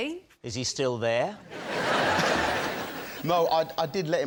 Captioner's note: laughter